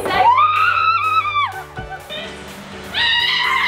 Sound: screaming

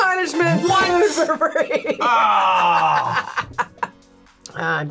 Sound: laughs; groans

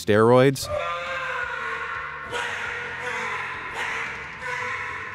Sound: shouting

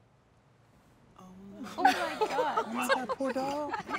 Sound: all laugh

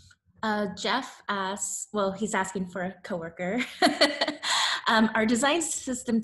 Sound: laughs

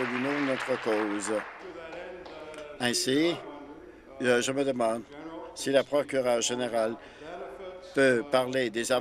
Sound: applause

